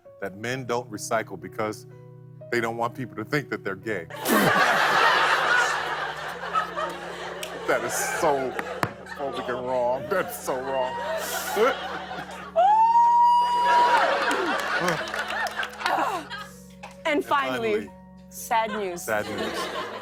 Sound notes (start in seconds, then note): 4.1 laughter; 12.9 laughter and applause